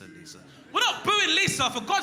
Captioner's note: man boos